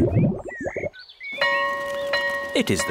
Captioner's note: tummy rumbles; school bell rings